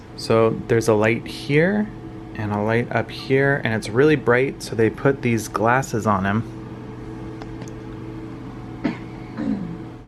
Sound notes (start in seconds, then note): 8.8 throat clearing